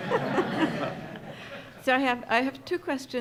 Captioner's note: audience laughing